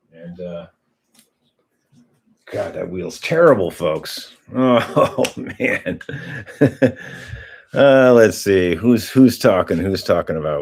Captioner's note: laughter